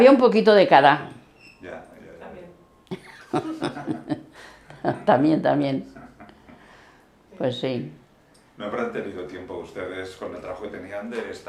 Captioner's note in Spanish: risas